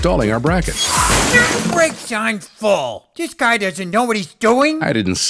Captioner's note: truck brakes